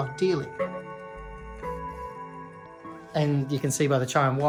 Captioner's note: clock chiming